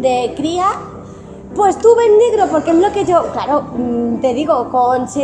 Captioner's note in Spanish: poniendo voz de niña